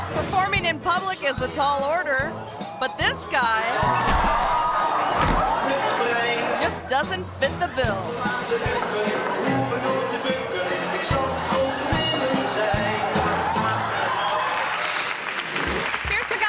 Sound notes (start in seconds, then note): 0.0 actor sings in foreign language; 4.0 performer thuds; 8.5 actor sings in foreign language; 14.0 audience applauds